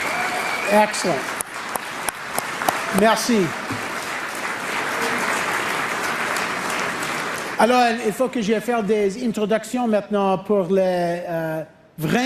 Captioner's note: cheering/Applause